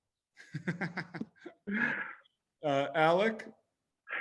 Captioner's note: all chuckle